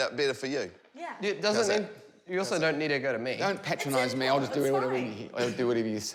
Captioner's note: slurs